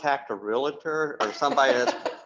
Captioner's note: chuckles